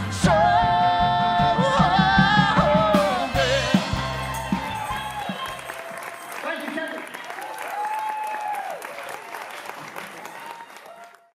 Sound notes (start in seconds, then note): 3.4 cheers and applause